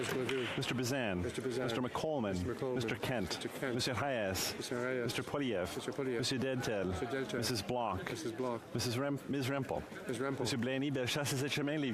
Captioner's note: cheering and Applause